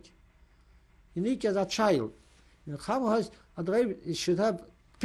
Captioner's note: non-english